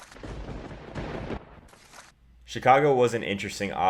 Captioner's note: thunder crash